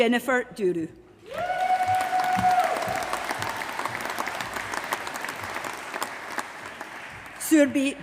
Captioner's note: applause